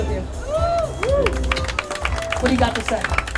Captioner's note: cheering and applause